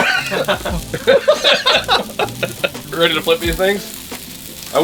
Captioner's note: laughing